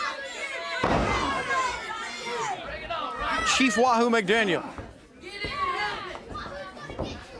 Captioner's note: crowd cheering